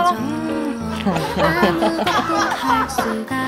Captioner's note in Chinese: 满足 大笑